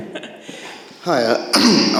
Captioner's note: audience laughs